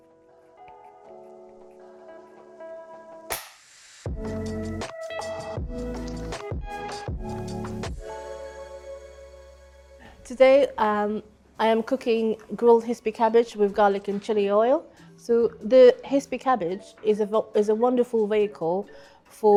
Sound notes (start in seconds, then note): 3.4 clapper board clacks; 4.0 soft upbeat music